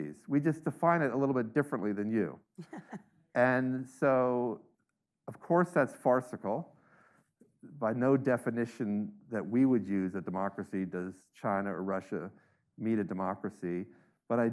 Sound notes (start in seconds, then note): 2.6 laughs